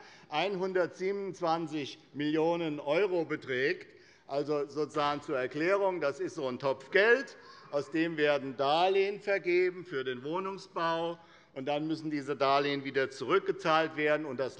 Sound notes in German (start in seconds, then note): none